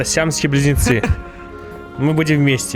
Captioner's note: laughter